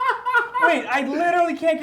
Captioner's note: laughter